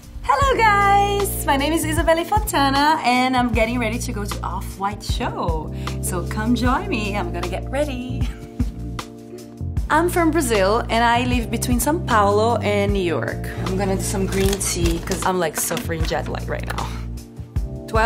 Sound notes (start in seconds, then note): 8.6 laughs